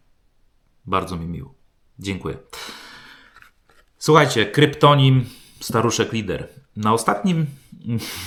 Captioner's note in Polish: westchnienie